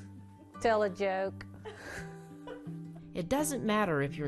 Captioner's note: laughing